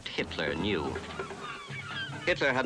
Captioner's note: birds cawing